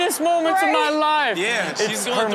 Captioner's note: crowd laughs